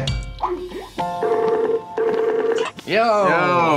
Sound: video chat notification beeps

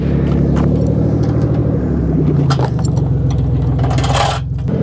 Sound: vehicle engine roar

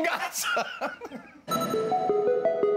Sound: laughter

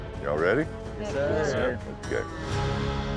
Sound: cowboys responding

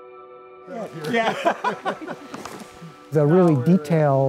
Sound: laughs

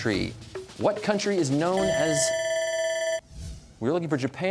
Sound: bell ringing

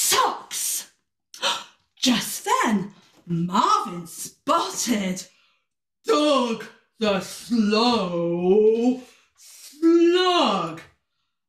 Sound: gasp

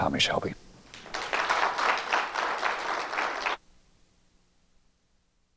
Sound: applause

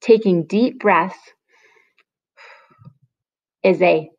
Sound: breathing

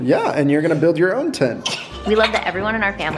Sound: laughs

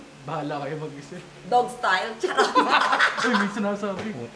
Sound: laughter

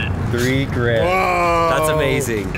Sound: exclaims

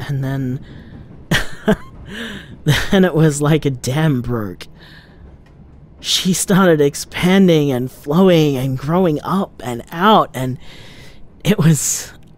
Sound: chuckles

